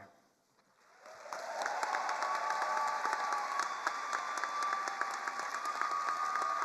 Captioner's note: attendees cheering and applauding